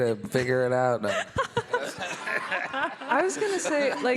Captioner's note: all laughing